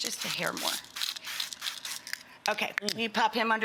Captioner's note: can spraying